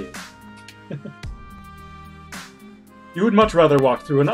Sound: chuckles

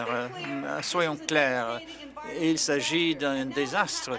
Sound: applause

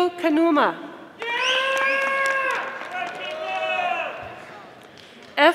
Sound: audience applauding

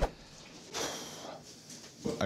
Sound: exhales

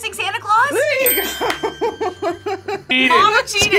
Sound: laughs

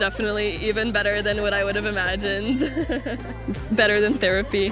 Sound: chuckles

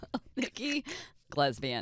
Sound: laughing

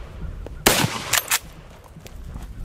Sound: gun fires

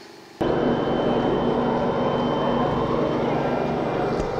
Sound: machines roaring

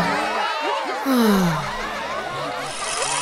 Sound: sighing

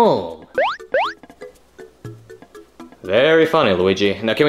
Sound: electronic beeps

